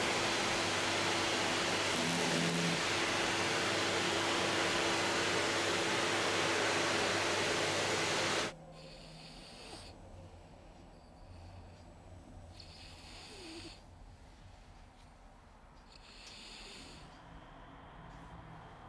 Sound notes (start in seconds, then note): 12.4 Helga breathes; 15.9 Helga breathes